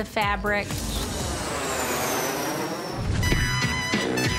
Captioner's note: airplane zooms; lively horn music